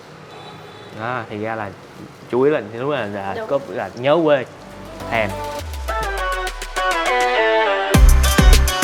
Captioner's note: awwwww